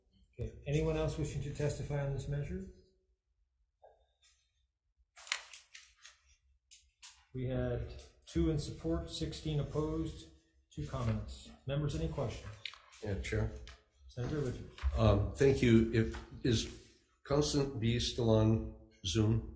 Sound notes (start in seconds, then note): 5.1 papers rustling; 6.7 pen clicking